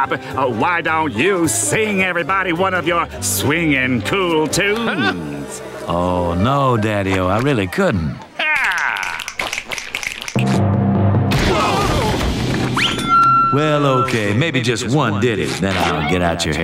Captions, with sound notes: Hey, Cool Bob, why don't you sing everybody one of your swinging cool tunes? No, Daddy-o, I really couldn't. [snapping] [yelling] Well okay, maybe just one diddy,